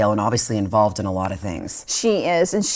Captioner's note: none